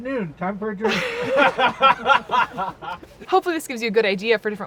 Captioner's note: laughing